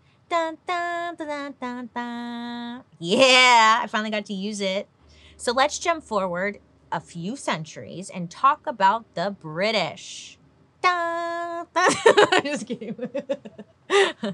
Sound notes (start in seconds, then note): 11.8 laughs